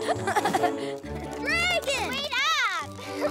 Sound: applauding

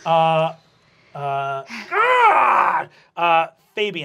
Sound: growls

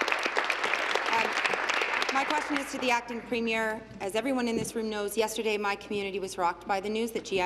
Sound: applause

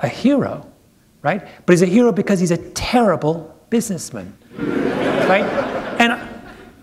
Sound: laughter

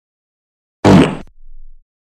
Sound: fart Sounds

